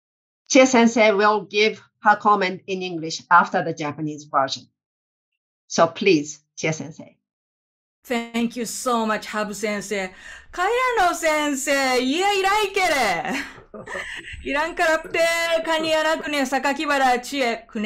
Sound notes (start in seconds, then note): 12.0 speaking japanese